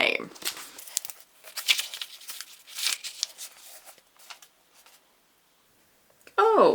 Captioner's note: pages flipping